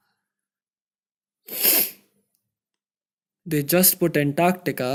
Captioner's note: sniff